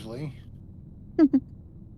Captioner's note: laughs